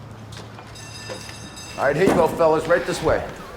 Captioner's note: bell rings